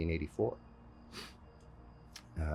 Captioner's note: sniff